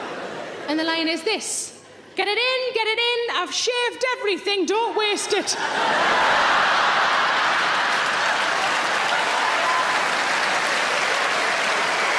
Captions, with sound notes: And the line is this, "Get it in, get it in, I've shaved everything. Don't waste it." (audience laughing) (audience applauds)